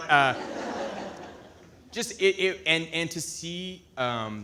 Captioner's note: audience laughing